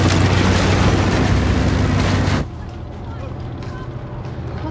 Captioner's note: tank rolling; people chattering